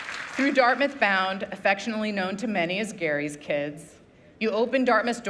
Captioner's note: applause